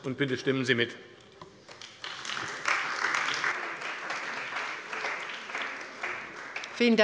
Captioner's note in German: Beifall bei der CDU und dem BÜNDNIS 90/DIE GRÜNEN